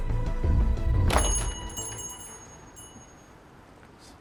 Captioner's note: door bell rings